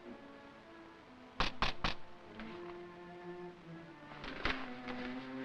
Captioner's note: knocking on window